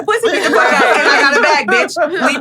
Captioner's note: everyone laughing